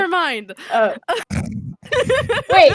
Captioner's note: both laugh